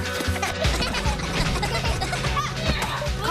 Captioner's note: laughter